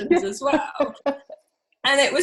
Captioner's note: laughs